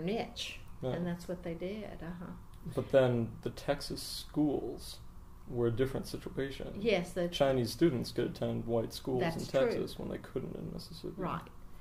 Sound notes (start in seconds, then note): none